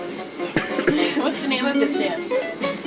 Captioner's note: laughing